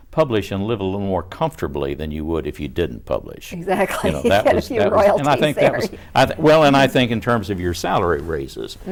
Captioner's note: laughs